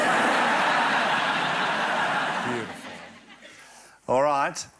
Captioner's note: laughter